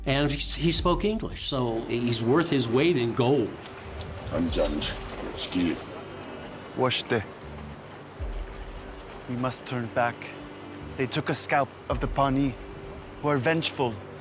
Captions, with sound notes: AND HE SPOKE ENGLISH SO HE'S WORTH HIS WEIGHT IN GOLD. [SPEAKING SIOUX] WE MUST TURN BACK. THEY TOOK A SCOUT OF THE PAWNEE WHO ARE VENGEFUL